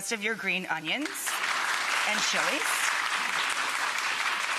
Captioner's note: audience applause